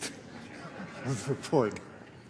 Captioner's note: laughter